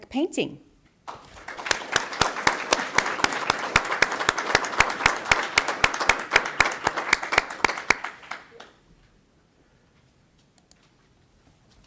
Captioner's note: applause